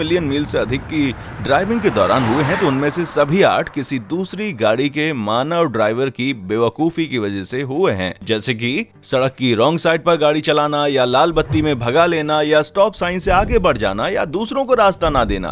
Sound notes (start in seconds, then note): none